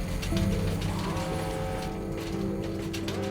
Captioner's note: alarm sound blaring